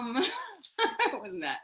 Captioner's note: laughs